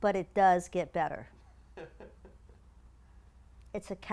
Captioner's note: laugh